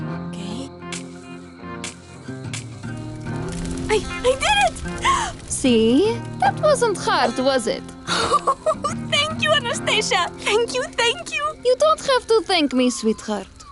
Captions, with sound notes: Okay… I… I did it! [inhales] See? That wasn't hard, was it? [laughing] Thank you, Anastasia! Thank you, thank you! You don't have to thank me, sweetheart.